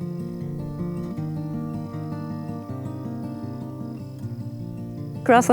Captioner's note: gentle acoustic music plays; insects chirping